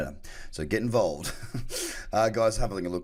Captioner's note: laughs